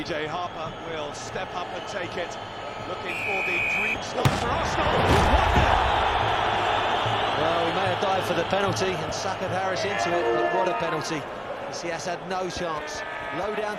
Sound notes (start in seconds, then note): 3.0 peluit berbunyi; 6.0 bersorak masyarakat